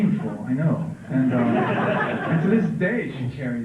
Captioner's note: laughter